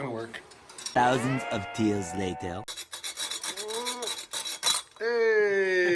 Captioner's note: French voiceover